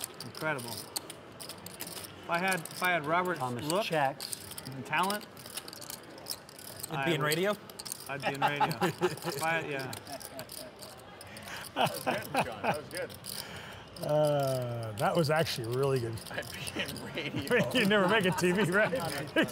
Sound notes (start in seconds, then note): 8.1 laughs